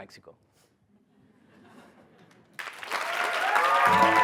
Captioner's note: applause